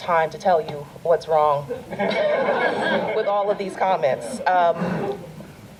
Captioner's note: audience laughter